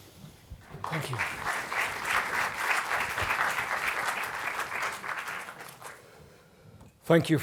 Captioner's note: applause